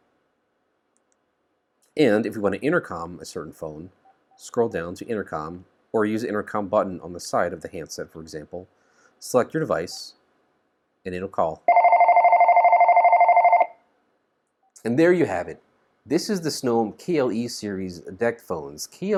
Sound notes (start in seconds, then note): 11.6 phone ringing